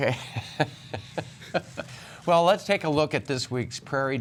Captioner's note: laughter